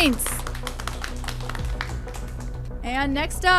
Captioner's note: applauds